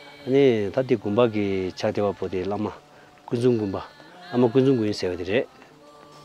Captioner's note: tibetan conversation